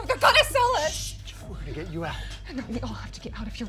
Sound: shushing

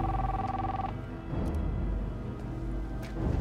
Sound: cellphone clicks

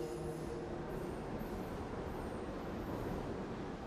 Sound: train running

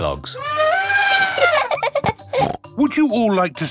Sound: trumpeting; laughing

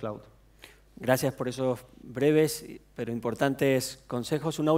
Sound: speaking spanish

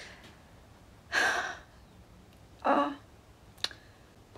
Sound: sighs

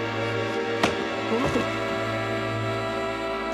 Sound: whack

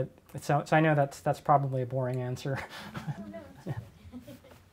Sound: laughs

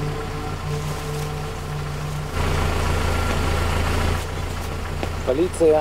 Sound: car engine sounds

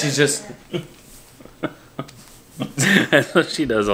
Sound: laughing

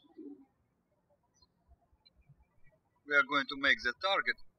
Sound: birds chirping

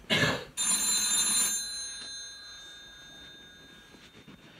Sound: telephone rings

